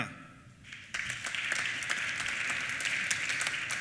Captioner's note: applause